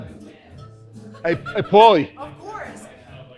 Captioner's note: patron laughs